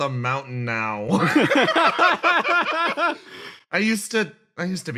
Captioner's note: laughs